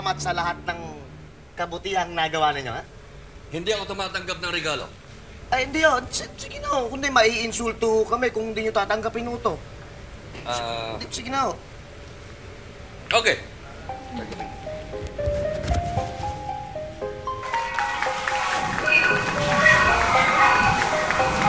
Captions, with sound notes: for all the good you have done, okay? I do not accept gifts. Oh, no. Sir, come on. If not, we will be insulted if you do not accept this. -Ah... -Please. Okay. [crowd cheering] Bye!